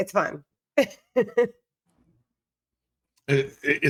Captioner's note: giggling